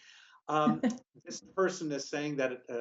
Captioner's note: laughing